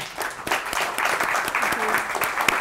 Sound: applause

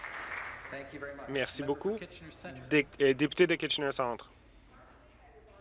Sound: applause

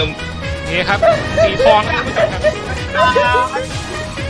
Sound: crying again

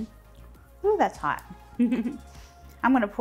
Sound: giggles

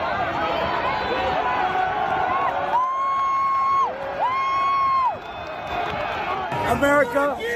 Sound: cheering

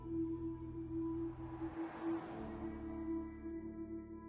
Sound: car passes

